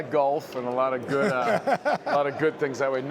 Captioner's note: laughter